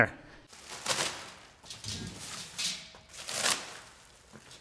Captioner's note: packaging rustling